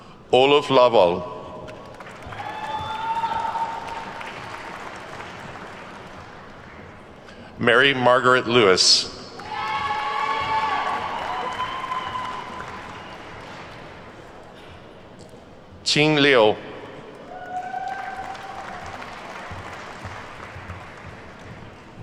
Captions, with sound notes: Oluf Lawal. (attendees whooping and clapping) Mary-Margaret Lewis. (attendees whooping and clapping) Qing Liu. (attendees whooping and clapping)